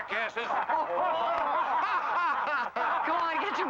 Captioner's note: men laughing